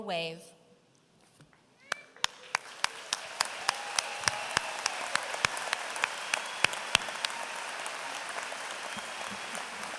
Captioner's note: applause